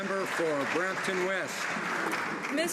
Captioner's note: some Applause